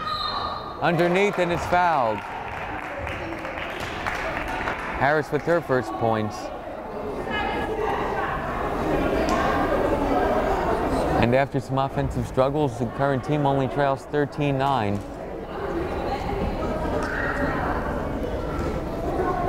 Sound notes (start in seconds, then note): 0.0 whistle blows; 2.5 crowd applauding